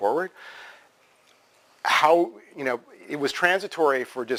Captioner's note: pause